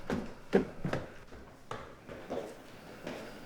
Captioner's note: steps stomping